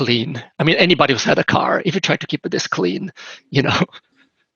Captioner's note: laughs